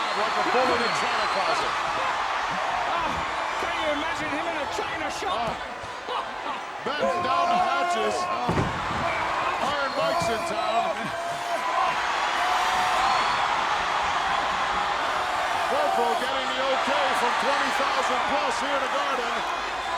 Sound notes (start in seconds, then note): 11.3 audience cheering